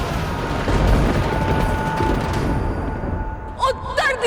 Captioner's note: thundering